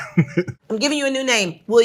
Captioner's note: participant laughs